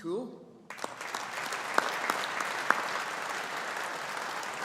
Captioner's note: audience applauding